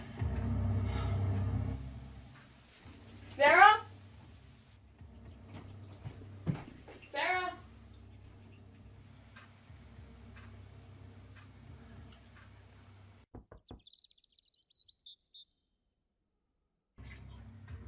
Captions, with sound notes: (ominous music) Sarah! (footsteps thudding) Sarah! (knuckles rapping) (birds chirping)